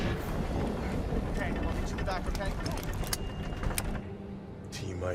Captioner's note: none